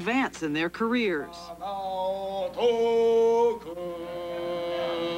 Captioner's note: man chanting rhythmically